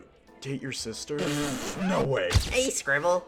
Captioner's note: spits